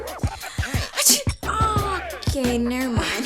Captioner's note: sneezes